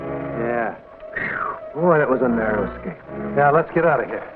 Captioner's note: whew